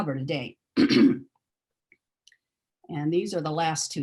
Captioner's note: clears throat